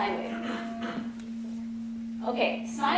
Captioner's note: tone